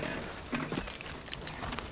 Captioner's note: shoes clank